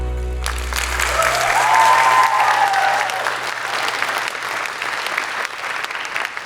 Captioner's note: applause